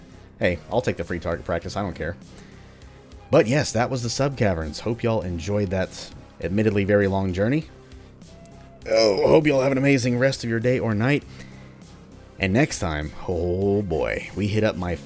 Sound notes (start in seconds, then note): 8.3 stretches and groans